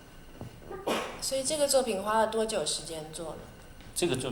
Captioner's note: Mandarin